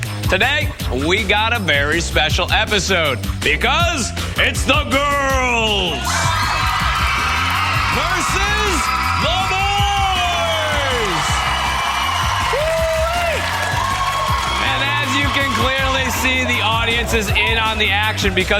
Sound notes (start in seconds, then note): 8.0 girls cheering; 14.6 boys cheering